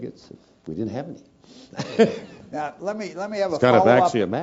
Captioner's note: laugh